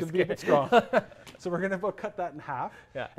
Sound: laugh

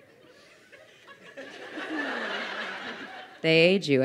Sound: crowd laughing

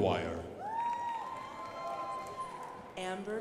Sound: crowd applauding

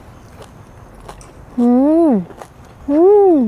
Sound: crunch crunch

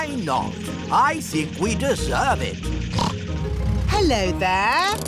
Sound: snorts

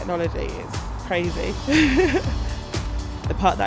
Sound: laughing

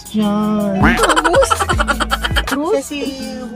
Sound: quack and Laughing SFX

